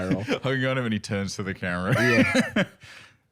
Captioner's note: laughs